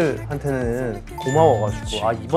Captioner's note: none